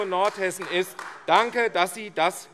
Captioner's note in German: Beifall AfD